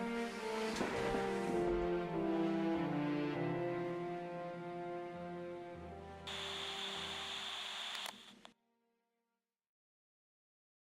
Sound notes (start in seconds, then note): 6.2 radio buzzing